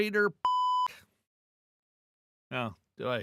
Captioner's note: beep